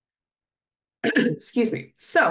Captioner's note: clears throat